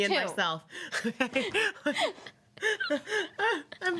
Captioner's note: women laugh